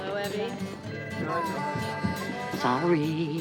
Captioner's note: telephone ringing